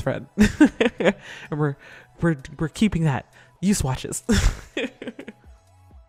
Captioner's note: laughs; laughs